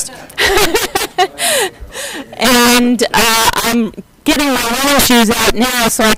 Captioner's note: laughter